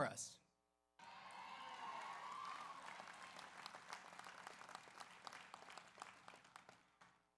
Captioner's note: audience cheers; audience applauds